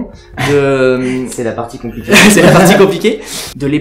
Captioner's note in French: Rire